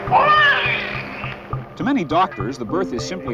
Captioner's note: baby cries